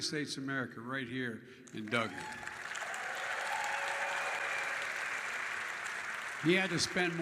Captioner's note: applause